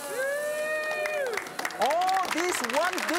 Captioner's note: audience claps